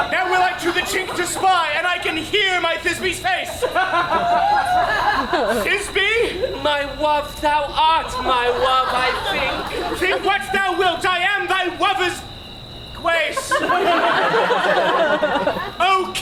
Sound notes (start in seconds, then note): 3.9 audience laughs; 13.2 audience laughs